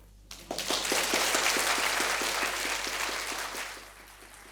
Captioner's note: audience applauding